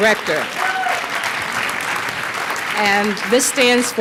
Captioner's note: applause